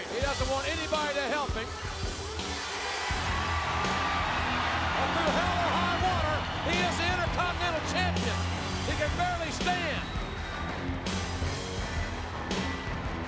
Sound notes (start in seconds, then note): 3.0 crowd cheering; 10.2 hard rock music